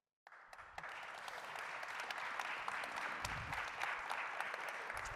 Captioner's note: applause